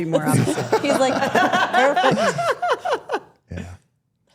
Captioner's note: Stephanie laughing